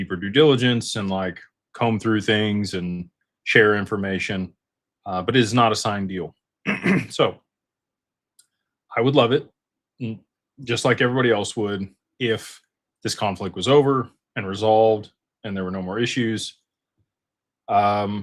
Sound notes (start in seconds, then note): 6.6 clears throat